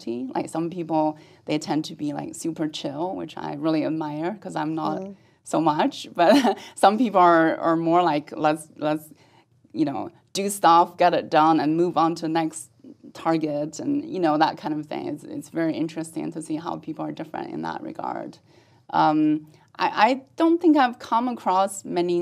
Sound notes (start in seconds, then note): 6.6 laugh